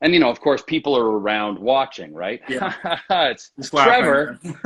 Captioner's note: laughs